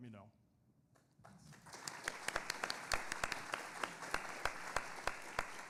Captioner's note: audience applauding